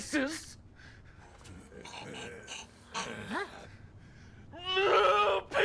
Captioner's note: growling; roars